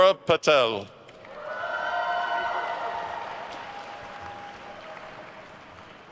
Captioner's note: attendees cheering and applauding